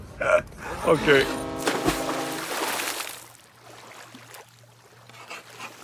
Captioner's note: foghorn blares; water splashing; pen scraping; water rustles